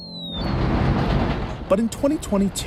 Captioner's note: train passing